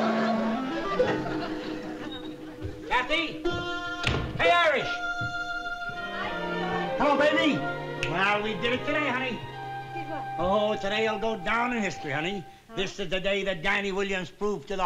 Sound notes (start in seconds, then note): 3.4 door slams